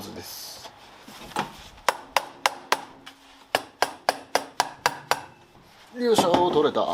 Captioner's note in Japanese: トンカチ音